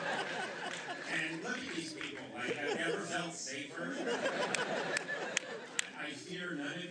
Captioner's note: laughs; laughter; laughter